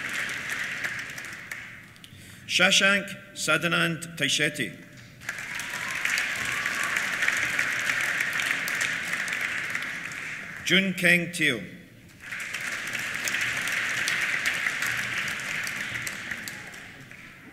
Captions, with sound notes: Shashank Sadanand Tayshete. (CHEERS) (APPLAUSE) Jun Keng Teoh. (APPLAUSE)